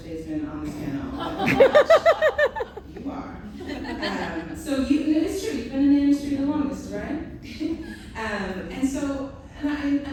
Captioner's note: laughter